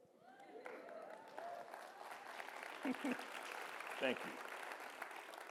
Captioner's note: audience cheering and applauding